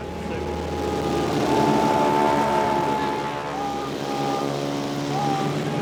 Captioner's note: richard screams